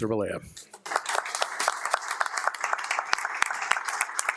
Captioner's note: crowd applauding